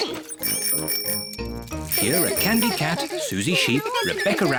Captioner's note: giggles; bicycle bells tinkle